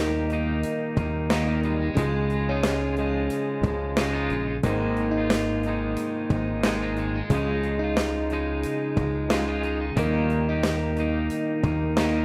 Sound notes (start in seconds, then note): none